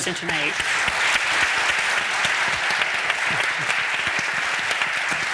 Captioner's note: audience applauding